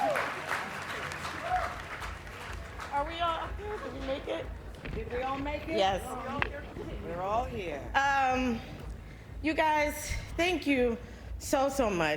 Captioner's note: applause